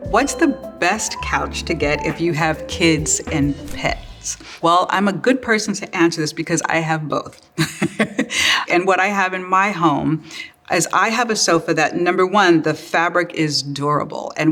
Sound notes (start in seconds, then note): 7.4 laughs